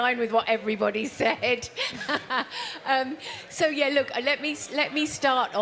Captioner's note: laughs